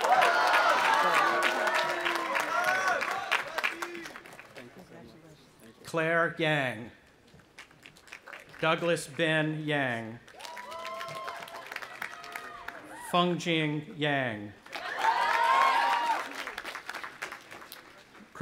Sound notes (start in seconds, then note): 0.0 audience applauding and cheering; 10.2 audience applauding; 14.6 audience applauding and cheering